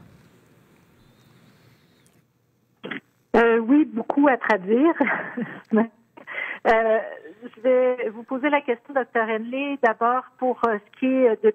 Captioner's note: speaking French